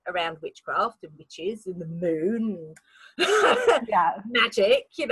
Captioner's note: laughs